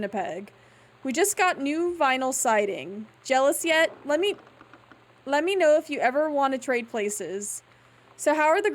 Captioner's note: floor Groans